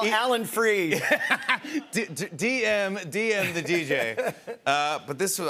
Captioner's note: laughs